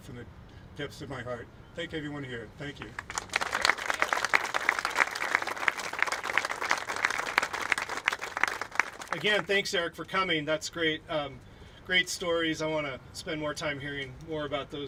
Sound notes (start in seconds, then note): 2.8 applauding